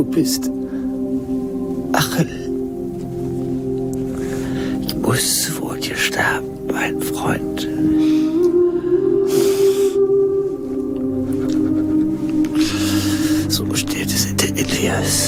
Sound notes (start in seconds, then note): 9.1 sobbing; 11.0 gasping